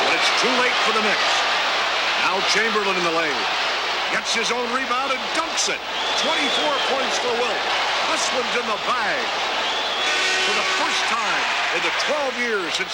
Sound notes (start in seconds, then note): 10.0 buzzer